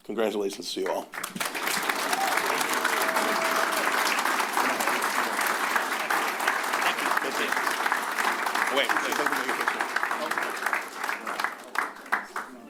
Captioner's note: applause